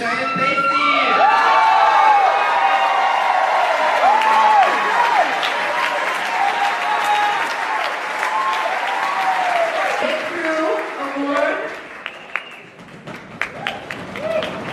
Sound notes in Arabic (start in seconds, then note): 1.5 الحشد يهتف بشدة